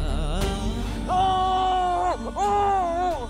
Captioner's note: screaming